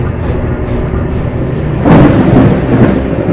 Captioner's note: thunder rumbling